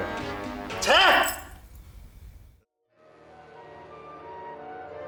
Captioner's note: speaking in Cantonese